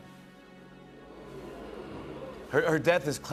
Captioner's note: audience "oohs"